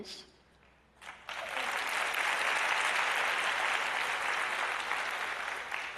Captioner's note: applause